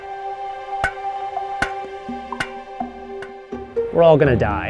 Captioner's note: shovel clanging